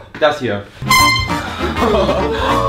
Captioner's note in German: air horn